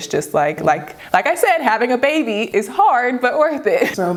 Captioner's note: laughs